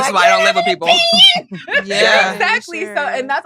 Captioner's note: laughs